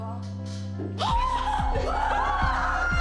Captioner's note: gasps; yelling